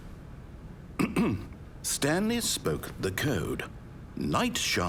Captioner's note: ahem